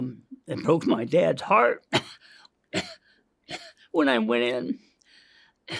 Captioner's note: coughs